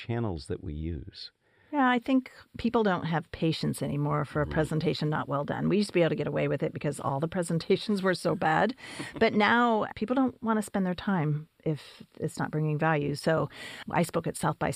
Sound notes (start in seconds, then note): 8.8 laugh